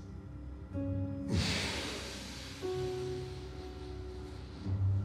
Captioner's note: Bjorn inhales deeply